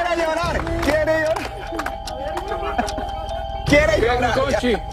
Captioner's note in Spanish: risas